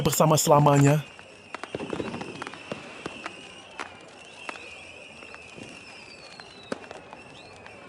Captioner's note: applause